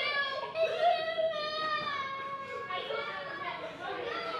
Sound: crying

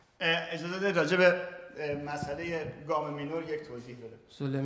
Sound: speaking in farsi

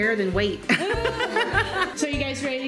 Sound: laughs

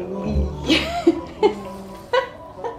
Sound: laughing

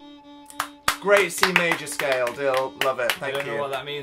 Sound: clapping

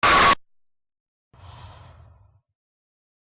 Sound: breaths

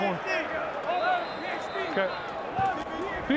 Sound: whistle blown

